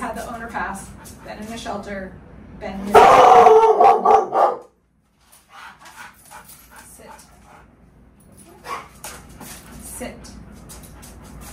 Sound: interrupted by barking

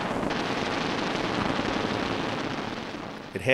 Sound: explosions

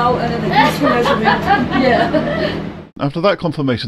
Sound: laughing

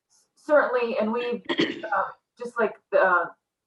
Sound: clears throat

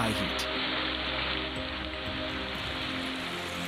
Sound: sizzling; water rushing

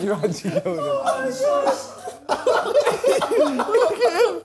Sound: laughing

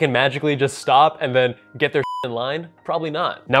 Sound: beep

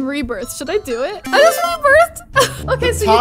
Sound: power up sound effect plays

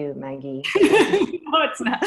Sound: laughter

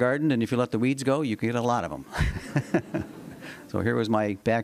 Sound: laughter

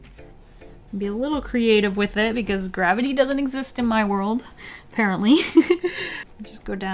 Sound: giggle

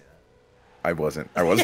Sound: laugh

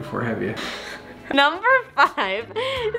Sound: laughs

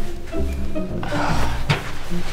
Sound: martin scoffs

